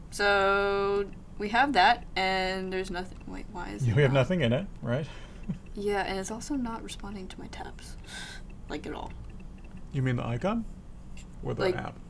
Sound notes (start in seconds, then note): 5.1 laughs